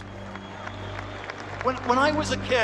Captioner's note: cheers and applause